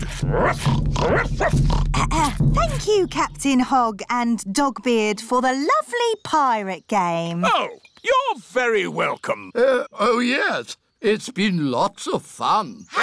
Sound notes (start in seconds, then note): 0.1 oinks; 1.0 barks; 2.1 clears throat